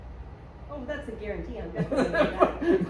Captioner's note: laugh